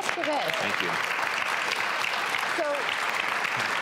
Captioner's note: audience applauding